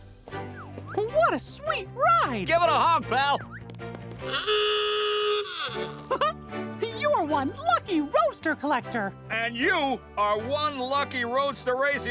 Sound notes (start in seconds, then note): 4.2 ah-oo-gah; 5.4 chuckles